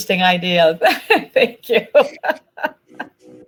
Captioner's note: chuckles